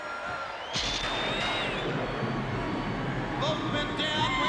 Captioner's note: crowd cheering